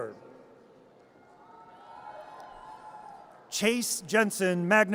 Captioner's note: audience cheers